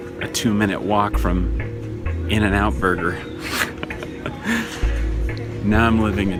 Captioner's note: laughing